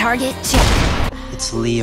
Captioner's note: sound of emerl dying